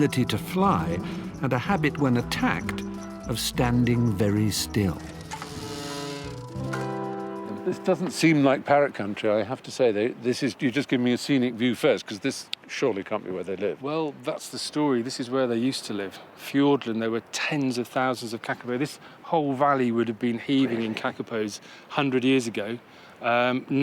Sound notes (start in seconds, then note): 5.3 gears whirring; 5.3 gentle music